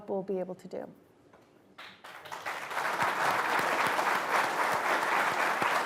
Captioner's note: applause